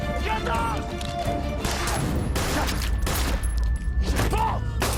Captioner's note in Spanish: Disparo